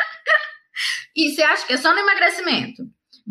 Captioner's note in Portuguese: risos